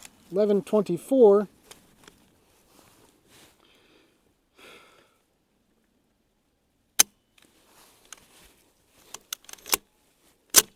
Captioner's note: gunshot